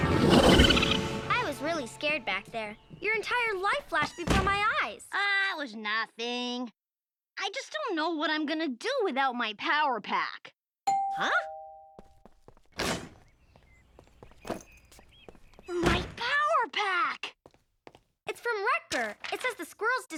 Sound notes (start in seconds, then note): 10.8 doorbell rings; 12.8 door clanging open